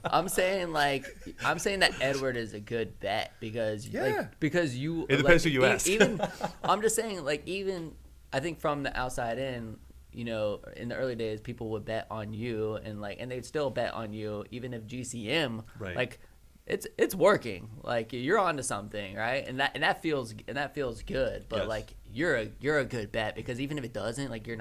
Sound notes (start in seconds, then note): 0.0 men laughing; 5.8 laughs